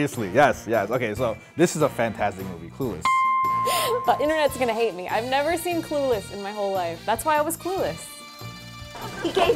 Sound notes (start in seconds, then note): 3.0 dings